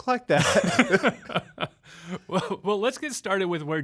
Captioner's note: laughing